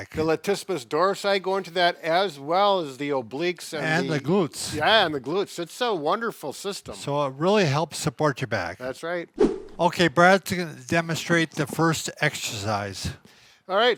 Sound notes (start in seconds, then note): 9.4 air swooshes